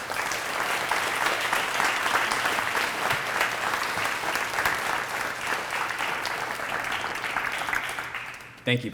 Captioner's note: applause